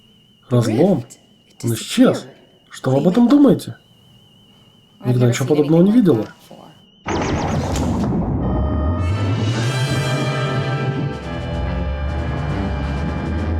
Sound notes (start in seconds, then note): 7.0 red alert klaxon; 7.1 ship shudders